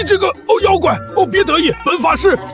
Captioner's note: gag